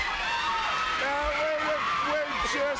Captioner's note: crowd screaming